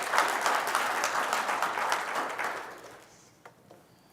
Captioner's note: applause